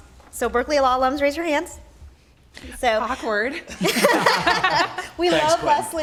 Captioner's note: laughing